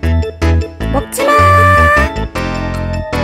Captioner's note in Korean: 높은소리로